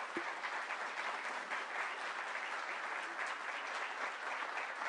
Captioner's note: applause